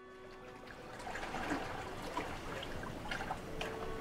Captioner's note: water lapping gently